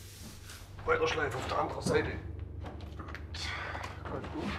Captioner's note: strained